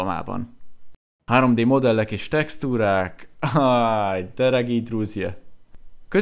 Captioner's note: in Russian